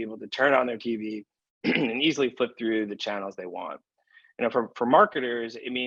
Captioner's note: cough